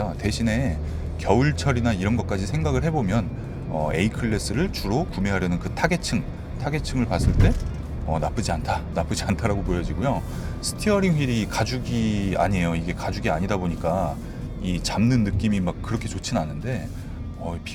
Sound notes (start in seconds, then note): 7.0 it rattles